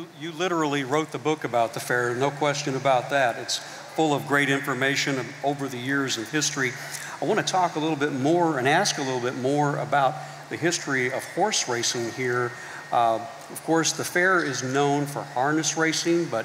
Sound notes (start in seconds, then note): none